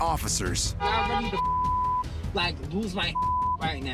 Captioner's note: car horn honking